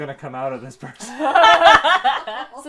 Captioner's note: laughter